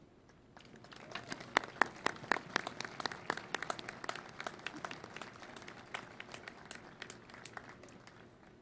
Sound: applause

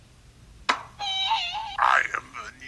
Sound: Woody Screams

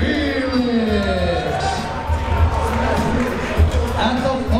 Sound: crowd members cheering

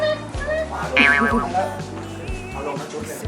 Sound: cute voices for cat

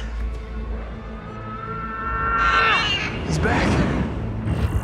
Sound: alarmed scream getting louder

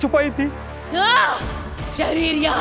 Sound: screams

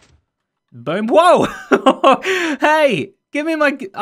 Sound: chuckles

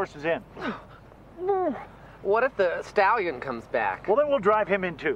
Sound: grunts

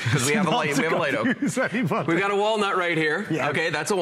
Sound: laughter

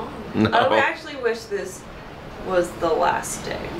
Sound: laughing

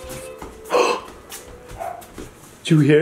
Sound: gasps

